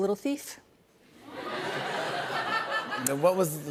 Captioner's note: laughter